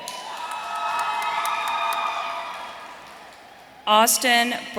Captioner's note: audience cheering